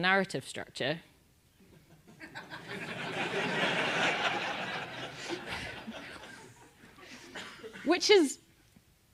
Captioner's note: laugh